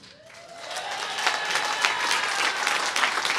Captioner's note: applause